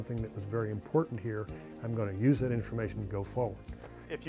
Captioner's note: none